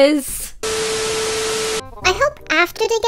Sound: tv blooper noise

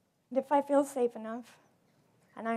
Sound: none

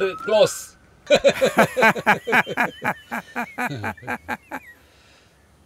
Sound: laughing

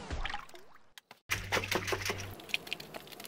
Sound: splashing

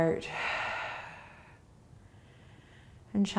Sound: exhaling

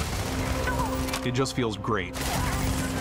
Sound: enemies yelling

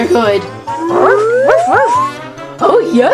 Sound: dog barks

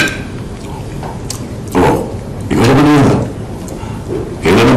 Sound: tongue clicks

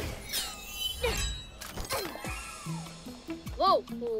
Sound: grunting

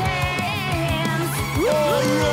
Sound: cheering

